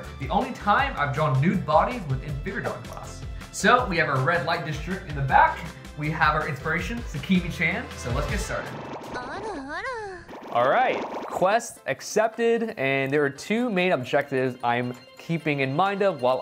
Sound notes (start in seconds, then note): 8.2 bubbles popping